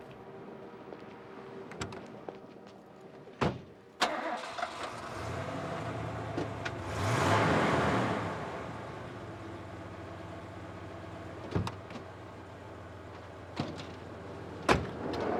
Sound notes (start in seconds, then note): 1.2 car door opens; 4.0 engine starting; 6.6 engine revs